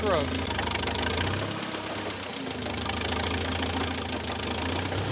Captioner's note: tractor motor chugging